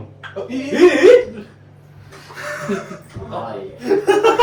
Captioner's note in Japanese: 笑い